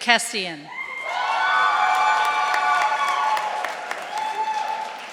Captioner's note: audience cheering